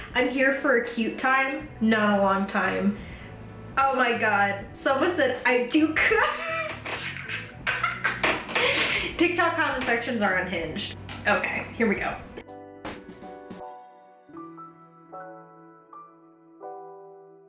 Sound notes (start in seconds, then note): 6.2 laughs; 12.8 gentle upbeat music